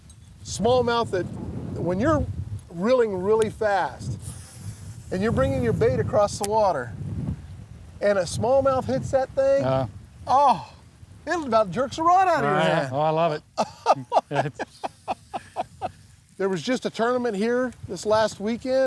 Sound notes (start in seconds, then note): 13.5 laughing